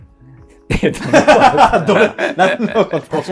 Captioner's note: laughing